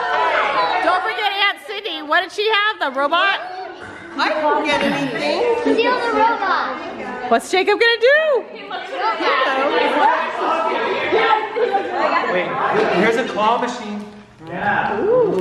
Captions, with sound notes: - Don't forget Aunt Cindy, what did she have? The robot? - Steal the robot. - What's Jacob gonna do? (crowd chatters) - Here's a claw machine.